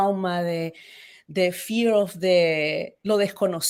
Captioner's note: speaks Spanish